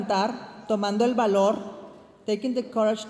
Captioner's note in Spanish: hablando en inglés